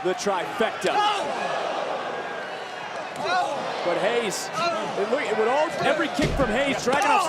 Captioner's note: applause